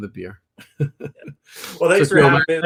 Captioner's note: laughs